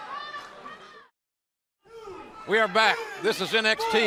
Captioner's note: crowd chatter